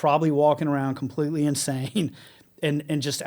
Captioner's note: laughs